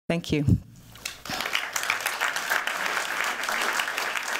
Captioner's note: applause